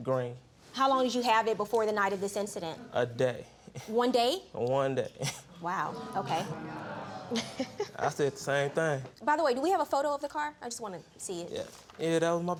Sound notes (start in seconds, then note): 2.4 snickers; 5.2 snickers; 5.9 audience exclaiming; 7.2 judge faith chuckling